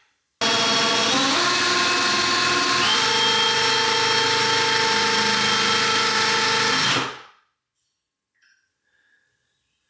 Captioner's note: drill whirring